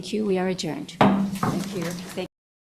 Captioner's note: gavel clanks